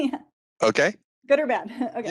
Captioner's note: laughing